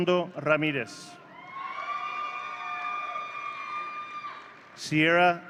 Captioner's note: audience cheering